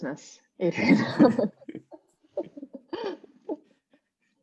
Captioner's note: laughing